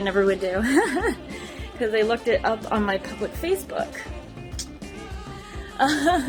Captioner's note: giggles